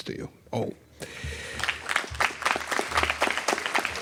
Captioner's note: applause